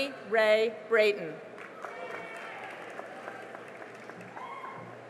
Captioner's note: cheering and applause